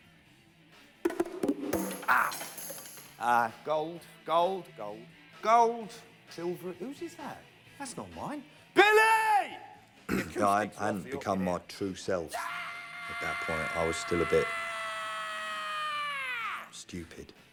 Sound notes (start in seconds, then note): 1.7 rattling; 10.0 clears throat; 12.3 screaming hysterically